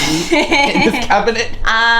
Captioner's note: laughs